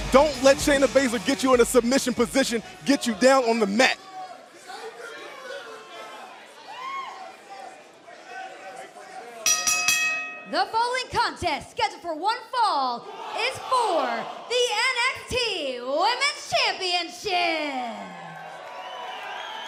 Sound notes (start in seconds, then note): 9.4 bell ringing